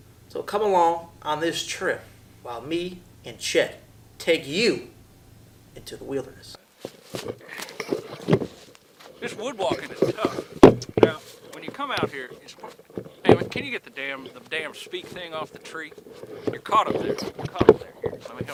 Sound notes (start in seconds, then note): 9.1 stick banging